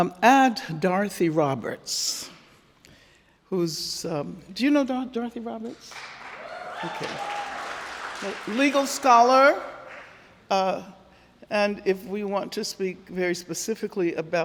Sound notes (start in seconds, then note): 5.8 audience cheering and applauding